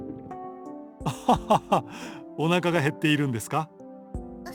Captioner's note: laugh